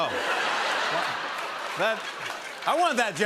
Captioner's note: laughter